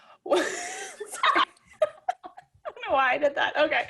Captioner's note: both laugh